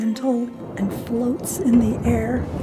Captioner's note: thunder roaring